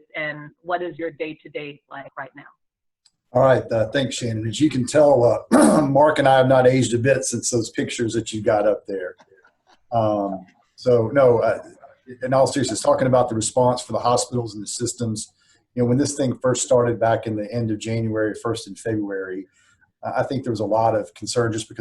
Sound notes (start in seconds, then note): 5.2 clear throat; 8.6 laughter; 10.8 murmurs